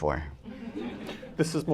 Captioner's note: laughter